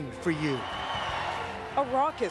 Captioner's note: cheers, applause